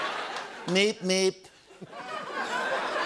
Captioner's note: As Trump